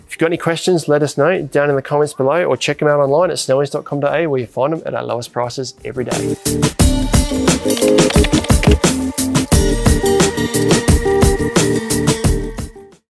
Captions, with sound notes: If you've got any questions, let us know down in the comments below, or check 'em out online at snowys.com.au where you'll find 'em at our lowest prices every day. (groovy music) (keys typing) (groovy music continues)